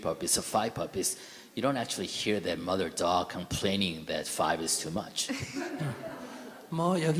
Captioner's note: audience Laughter